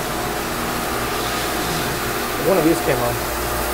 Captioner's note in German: Pumpe brummt